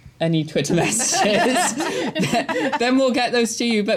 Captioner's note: laughter